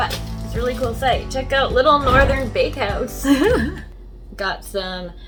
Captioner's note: laughs